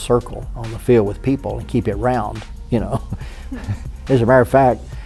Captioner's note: laughs